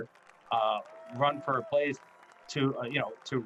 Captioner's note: crowd applauding